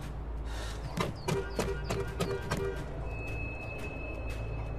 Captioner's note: horn honking